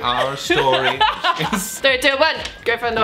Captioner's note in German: lacht